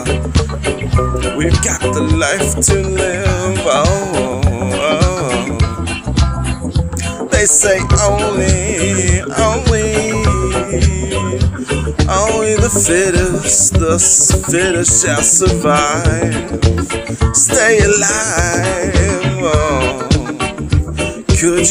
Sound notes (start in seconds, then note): 3.9 ooh, ooh, ooh